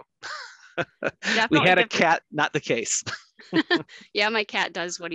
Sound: laughs

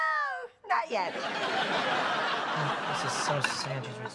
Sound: laughter

